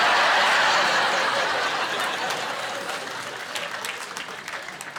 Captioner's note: laughing